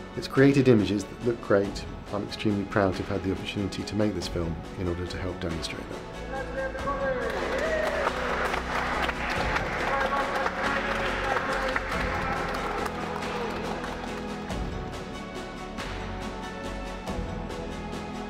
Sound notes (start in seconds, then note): 7.2 crew cheering; 8.7 people clapping